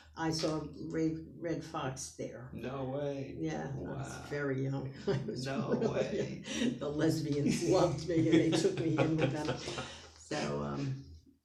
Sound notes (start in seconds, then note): 5.2 laughs; 8.0 laughs